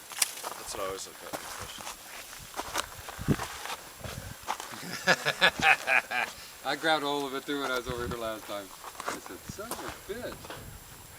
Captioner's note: laughing